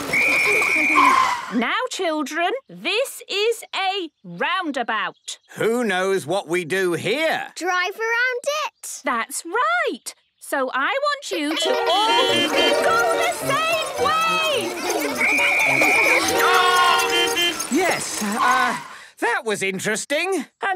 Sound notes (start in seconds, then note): 0.0 whistle blowing; 11.6 beeping; 15.2 whistle blowing; 17.1 beeping